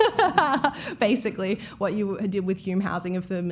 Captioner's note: laughs